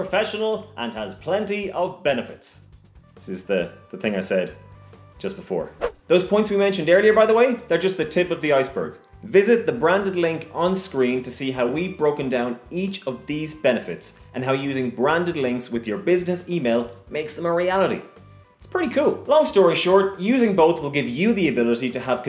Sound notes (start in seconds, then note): 5.8 swoop